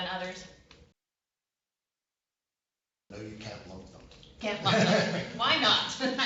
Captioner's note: laughter